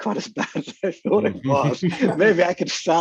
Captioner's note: laughs